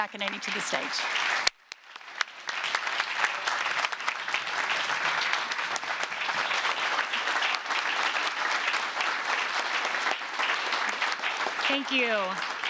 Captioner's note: applause